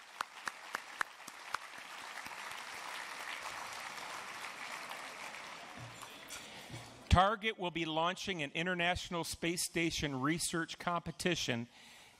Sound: applause

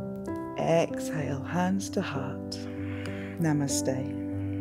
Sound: exhales

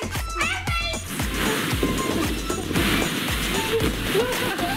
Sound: balls rustling

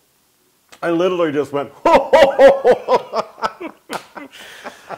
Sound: laugh

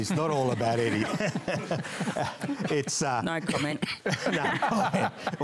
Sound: laughter

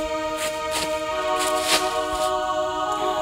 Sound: staggering footsteps

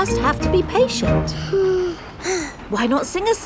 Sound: both sigh

